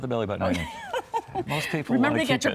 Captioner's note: laughs